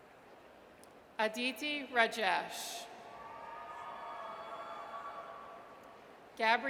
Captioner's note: audience cheers